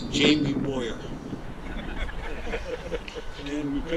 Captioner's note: audience laughing